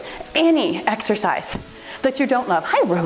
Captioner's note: timer beeps